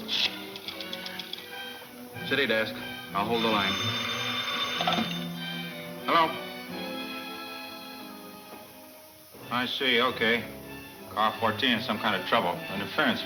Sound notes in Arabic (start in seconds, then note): 3.1 رنين الهاتف